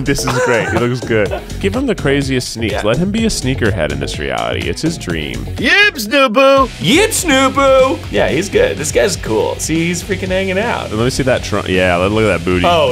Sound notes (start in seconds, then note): 5.6 Sim language